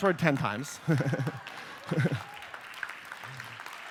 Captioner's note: applause; laughs